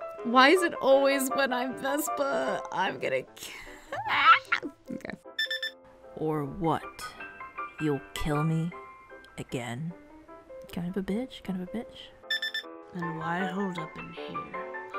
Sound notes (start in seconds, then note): 3.7 shouts